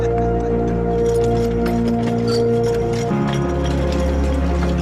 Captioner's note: farmers speaking in Spanish; tire screeching